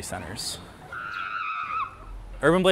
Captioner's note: play screaming